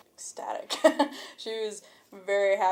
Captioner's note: chuckles